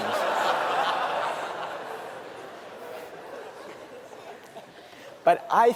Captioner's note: laughter